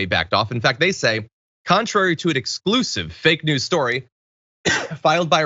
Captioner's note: cough